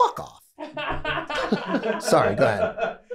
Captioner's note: group laughing